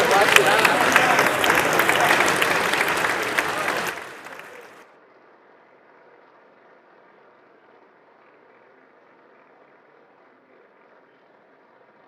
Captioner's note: applause